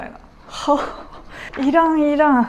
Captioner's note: confused